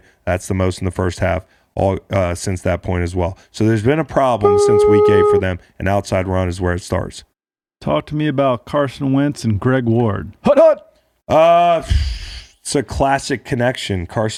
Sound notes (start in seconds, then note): 4.5 beep